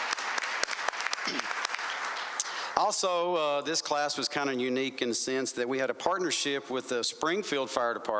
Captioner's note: applause